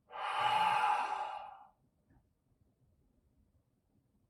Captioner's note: Chuck exhales slowly